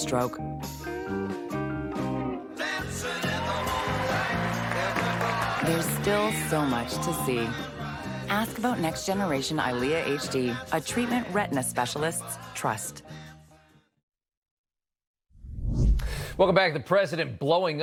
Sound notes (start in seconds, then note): 5.0 applause